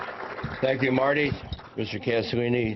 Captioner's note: applause